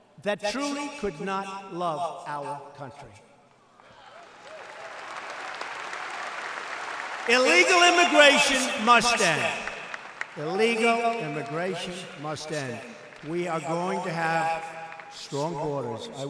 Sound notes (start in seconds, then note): 3.1 applause